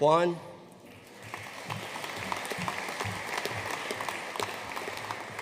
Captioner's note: audience applauding